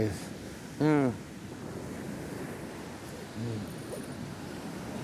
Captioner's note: water crashing